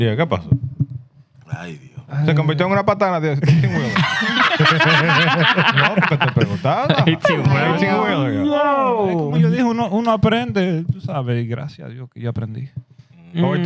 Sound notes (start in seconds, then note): 0.2 speaking Spanish; 3.4 laughter; 4.1 speaking Spanish; 10.5 speaking Spanish